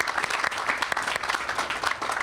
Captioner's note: all applauding